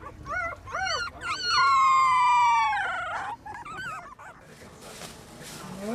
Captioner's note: puppy howling